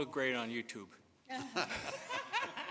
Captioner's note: laughter